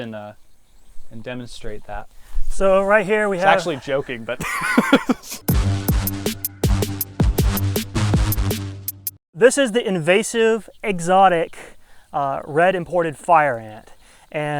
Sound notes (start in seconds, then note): 3.2 laughs; 4.4 upbeat music